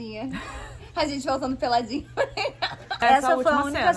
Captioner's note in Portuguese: laughing; laughs